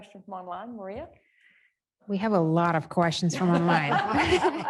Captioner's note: laughter